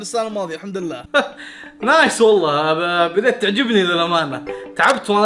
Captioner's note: chuckles